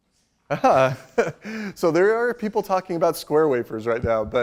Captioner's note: laughs